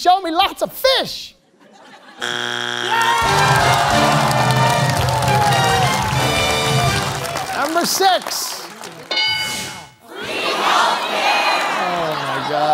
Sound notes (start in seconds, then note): 2.2 buzzer sounds; 4.5 cheering/applause; 9.1 bell dings